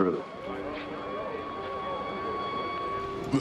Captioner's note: sirens wailing